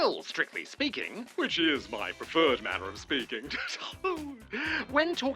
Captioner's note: chuckles